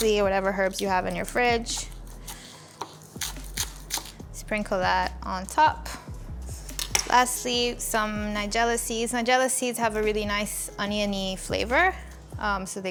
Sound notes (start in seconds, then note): 3.1 leeks crunching; 6.7 knife clacks